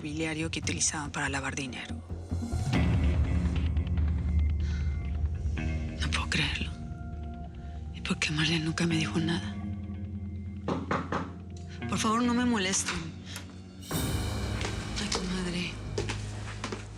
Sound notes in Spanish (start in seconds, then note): 10.7 toques en la puerta